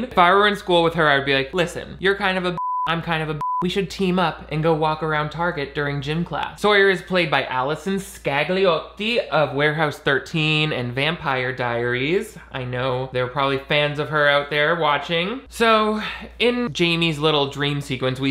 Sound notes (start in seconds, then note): 3.3 beeping